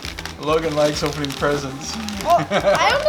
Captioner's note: laughs